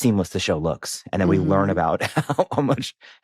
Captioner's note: chuckles